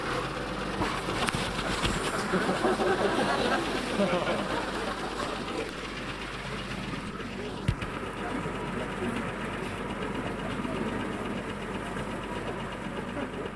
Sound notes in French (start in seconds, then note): 0.6 Bruit de machine; 1.6 Rires